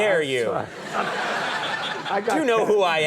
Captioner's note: audience laughing